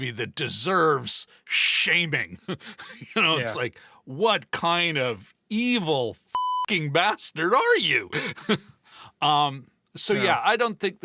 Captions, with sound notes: that deserves shaming." You know, it's like, what kind of evil (beep) bastard are you? So yeah, I don't think